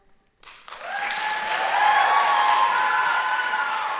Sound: audience applauding

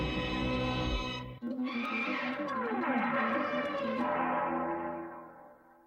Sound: cartoon sounds resuming

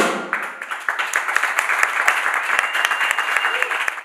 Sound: applause

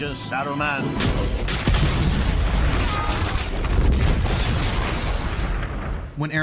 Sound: explosion

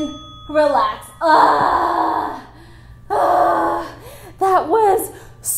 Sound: groaning

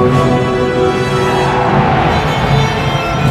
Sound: riders yelling

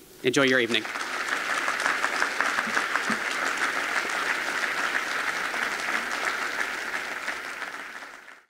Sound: applause

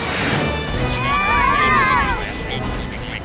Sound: screaming

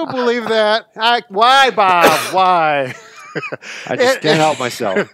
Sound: laughs; laughs

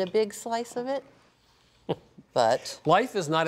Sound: chuckles

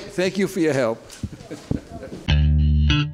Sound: chuckles; upbeat music

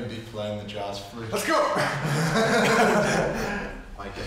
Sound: laughs

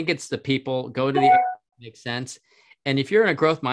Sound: beeping drowns

